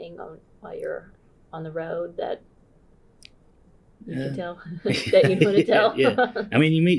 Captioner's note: laughs